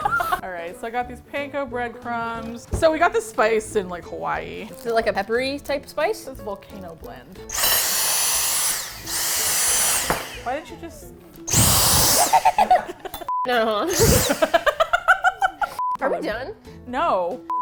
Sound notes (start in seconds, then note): 0.0 both laugh; 7.4 vacuum whirs; 12.2 laughs; 12.4 laughs mischevously; 13.9 laughs; 14.0 vacuum whirs